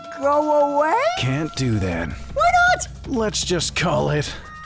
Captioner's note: none